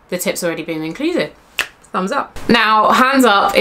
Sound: snaps

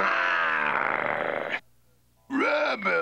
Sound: growls

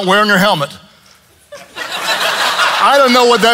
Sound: congregation laughs

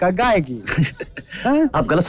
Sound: laughs

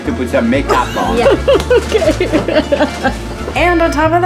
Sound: laughing

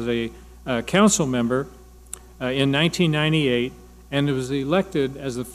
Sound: none

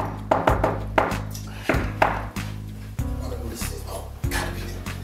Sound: knock on door

